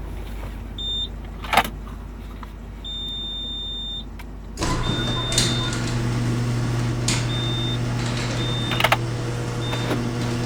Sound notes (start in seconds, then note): 2.8 beeping; 4.5 garage door closing